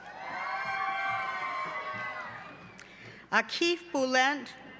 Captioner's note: cheering